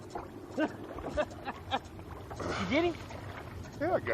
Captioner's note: laughs